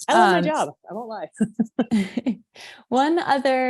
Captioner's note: chuckling